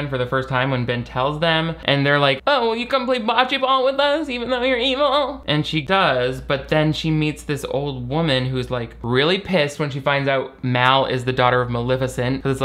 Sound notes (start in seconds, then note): none